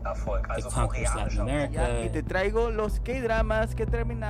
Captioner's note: soundbite of archived recording